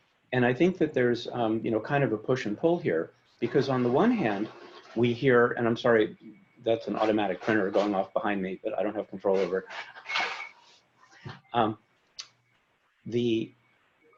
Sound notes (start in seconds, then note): 4.8 mechanical sound